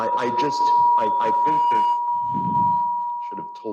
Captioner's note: speaker system ringing